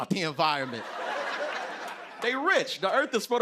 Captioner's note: laughter